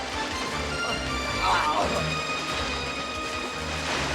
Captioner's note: Roger yells